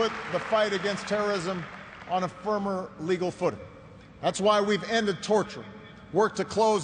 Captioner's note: applause